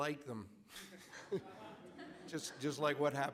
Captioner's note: audience laughing